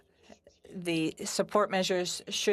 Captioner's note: speaking French